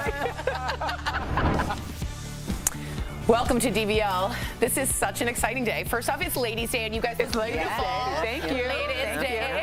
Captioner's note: laughter